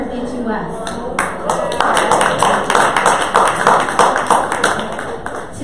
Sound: audience applause

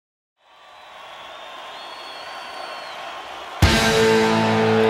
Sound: audience cheering

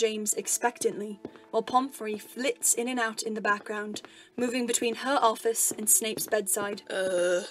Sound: footsteps

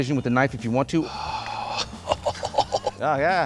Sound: groaning

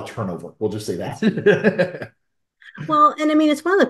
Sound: laughs

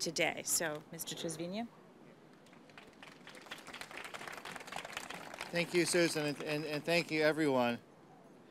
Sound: applause

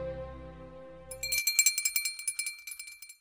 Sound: bell dinging

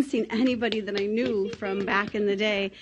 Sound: audience applauding

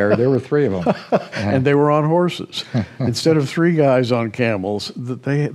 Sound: laughs

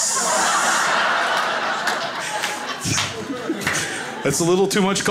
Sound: crowd laughs

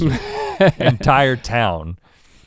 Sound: laugh

